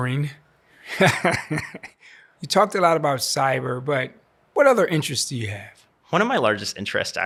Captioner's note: laughs